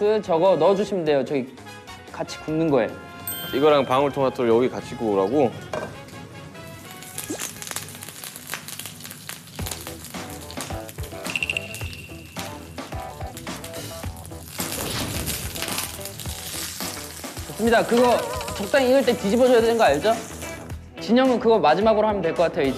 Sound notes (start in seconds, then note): 6.9 splattering oil